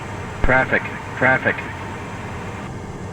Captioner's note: radio voice